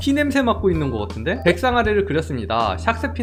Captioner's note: voiceover